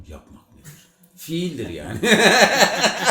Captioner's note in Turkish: kahkaha atarak